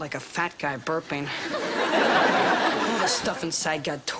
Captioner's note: audience laughter